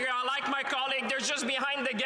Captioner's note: some Applause